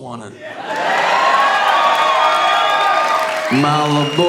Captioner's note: audience cheering